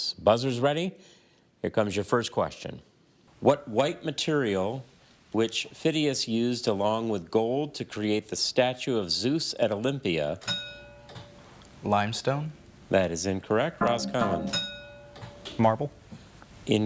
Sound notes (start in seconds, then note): 10.5 bell dings; 13.8 bell dings; 14.2 buzzer buzzes